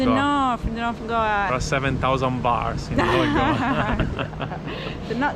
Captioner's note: laughing